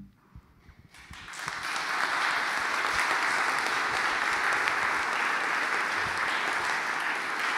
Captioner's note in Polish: oklaski